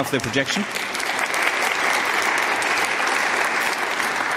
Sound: applause

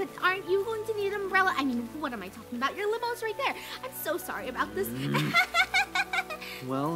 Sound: grunt; akward little laugh

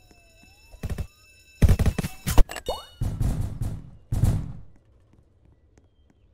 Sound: gunshots

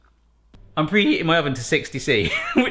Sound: laughs

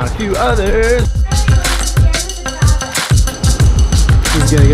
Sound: upbeat music; people chattering

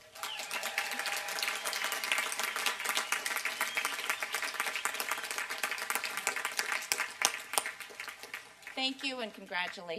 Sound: applause and cheering

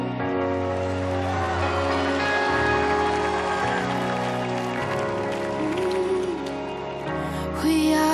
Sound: cheers

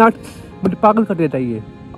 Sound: foreign language

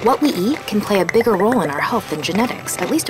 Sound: voiceover

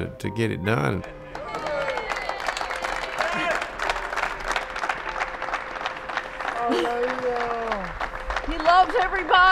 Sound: cheering and clapping

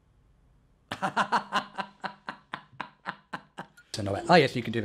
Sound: laughs

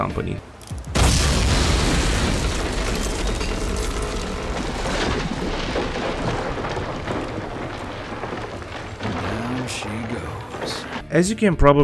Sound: shooting, sound of bridge exploding and collapsing

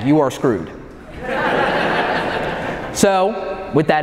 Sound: audience laughing

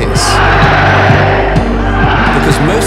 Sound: people shouting; suspenseful music

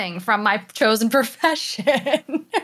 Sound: laugh

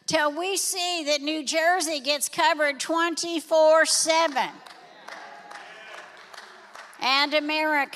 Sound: congregation applauds

